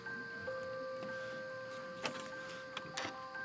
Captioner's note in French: bois qui craque